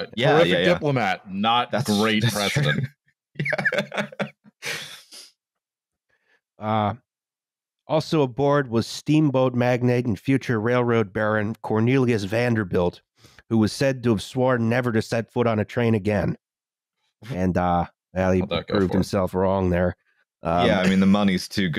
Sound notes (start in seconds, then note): 3.4 laughing